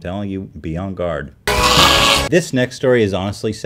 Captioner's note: screech